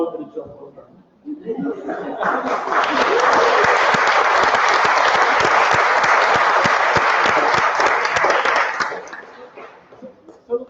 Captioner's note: applause